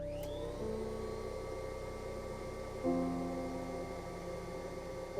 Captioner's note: whirring